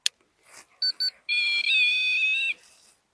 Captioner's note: beeping